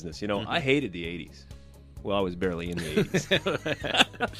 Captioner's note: both laugh